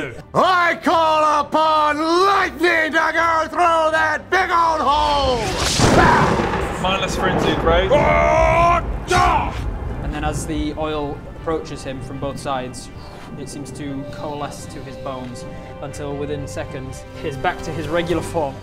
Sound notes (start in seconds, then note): 5.0 crash; 7.2 rwwwaaarrrrrr...drrgh!